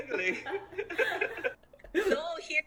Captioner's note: laughing